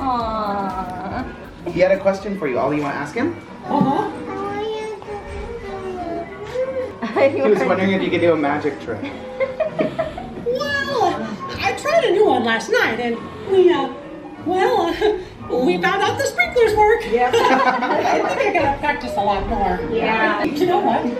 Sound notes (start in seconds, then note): 9.3 laughter; 17.2 laughing